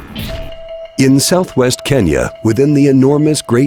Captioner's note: voiceover